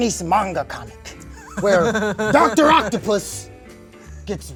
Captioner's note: laughs